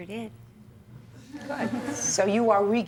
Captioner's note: viewers laughing